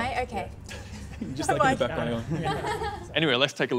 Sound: chuckling

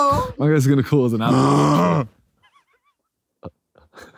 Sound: grunting; laughing

